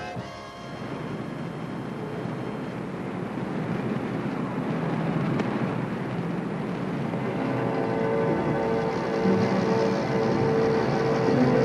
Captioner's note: faint jazz music; city street sounds; suspenseful music